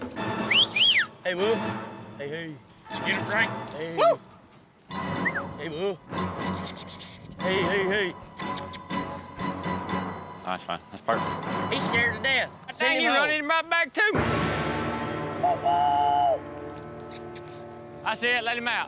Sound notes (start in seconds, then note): 0.3 whistles; 4.9 makes squeaky sounds